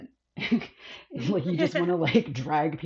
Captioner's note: laughs